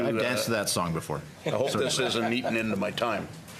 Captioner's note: laughing